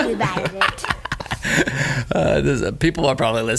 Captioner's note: laughing